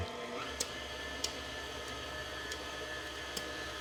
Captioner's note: mixer whirring